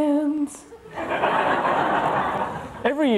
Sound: audience laughs

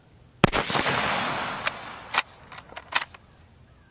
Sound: rifle firing

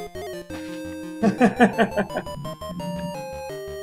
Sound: laughs

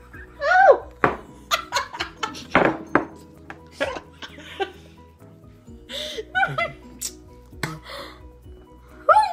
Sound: laughing

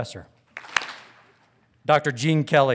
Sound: audience claps

